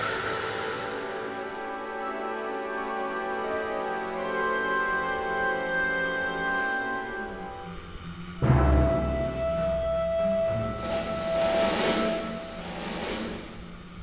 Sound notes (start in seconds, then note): 1.0 mysterious orchestral music; 8.3 drone engine